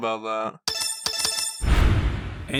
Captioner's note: triple button press